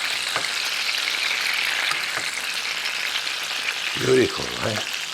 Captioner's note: sizzling in pan